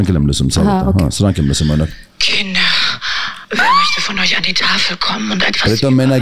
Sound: speech in German

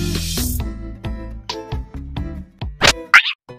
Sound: TV glitching

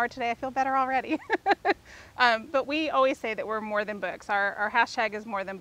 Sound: laughs

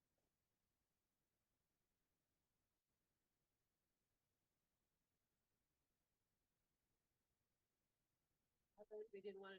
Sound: audio cuts out

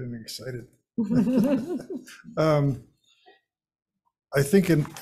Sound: people laughing

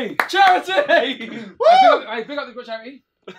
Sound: shouting

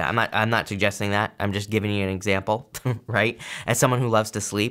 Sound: chuckles

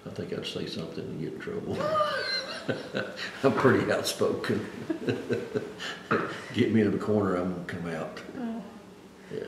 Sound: laughs

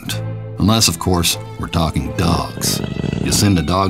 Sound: dog groans

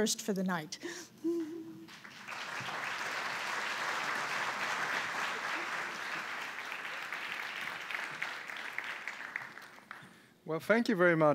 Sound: applause

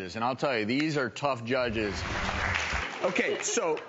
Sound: crowd applauds

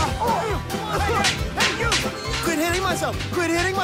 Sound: all grunting

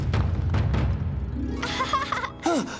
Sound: laughing; gasping

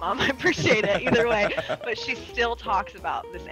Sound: laugh

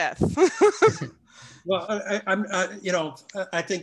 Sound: laughs

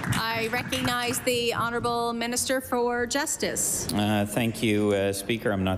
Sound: applause

